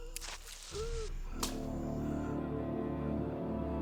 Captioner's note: man groaning